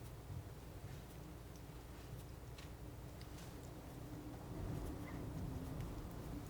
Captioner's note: scratching